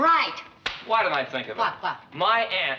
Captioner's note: slaps knee